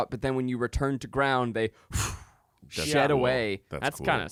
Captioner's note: blows air